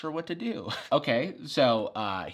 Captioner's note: chuckles